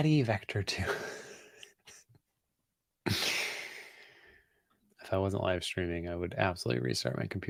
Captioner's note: laughs